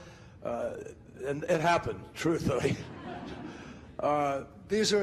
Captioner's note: laughing